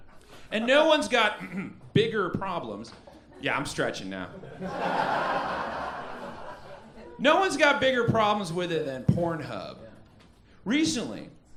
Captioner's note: ahem